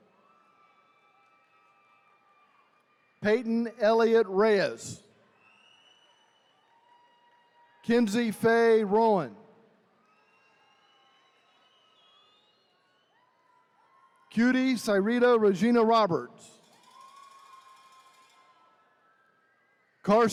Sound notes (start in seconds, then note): 5.3 attendees cheering; 16.8 attendees cheering